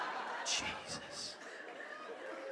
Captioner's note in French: EN, chuchotte